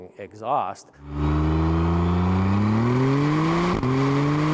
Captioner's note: engine roaring